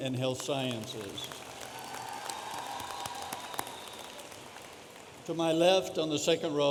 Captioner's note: audience applauding